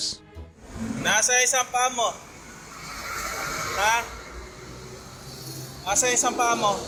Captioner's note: passerby speaking in foreign language